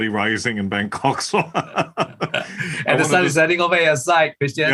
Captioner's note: laugh